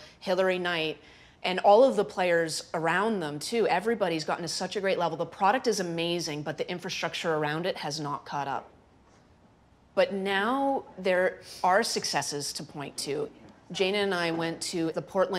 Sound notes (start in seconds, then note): none